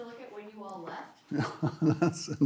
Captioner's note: laughing